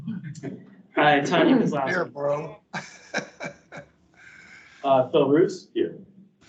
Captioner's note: laughs